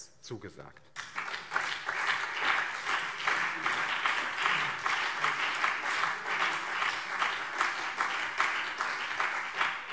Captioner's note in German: Beifall BÜNDNIS 90/DIE GRÜNEN und CDU